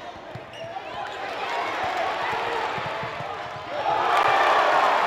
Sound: audience cheers

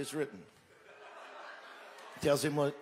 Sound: crowd laughs

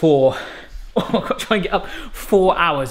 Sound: laughing

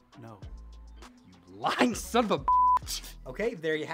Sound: beep

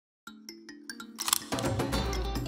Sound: camera shutter clicks

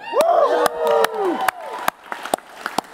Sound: audience cheers and applaudes

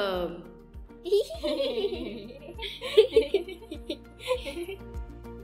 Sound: giggles

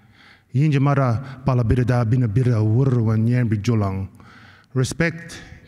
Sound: non-english speech

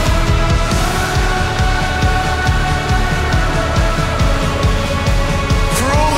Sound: crowd

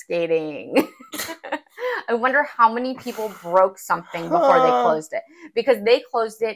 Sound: laugh

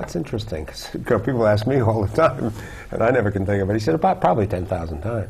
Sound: chuckle

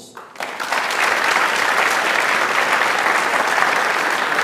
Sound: audience applauds

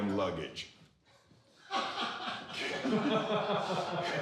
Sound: all laughing

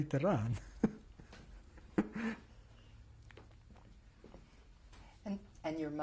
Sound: laughs

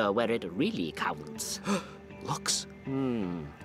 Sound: gasp

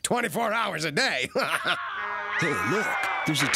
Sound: laughing; screaming on TV

